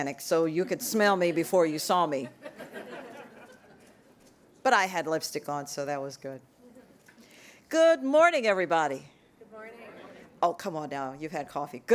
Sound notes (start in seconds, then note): 2.2 laughter